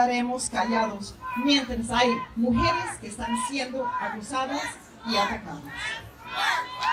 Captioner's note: distant Chants: Lets March! Lets March!